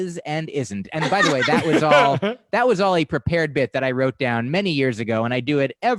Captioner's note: laughter